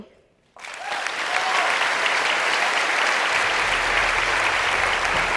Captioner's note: applause